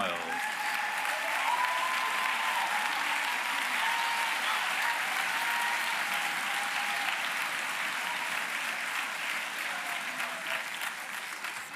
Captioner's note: applause